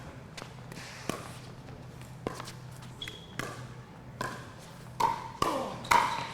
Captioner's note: ball being hit; shoes squeaking